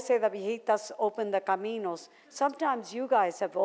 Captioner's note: foreign language